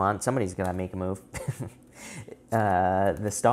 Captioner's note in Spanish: risas